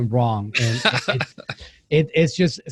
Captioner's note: laughing